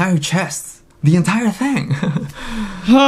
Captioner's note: laughs